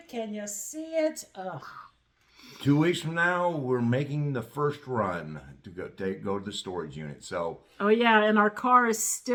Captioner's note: heavy sigh